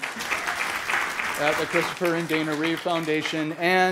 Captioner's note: applause